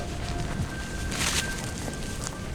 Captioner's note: dry grass crackling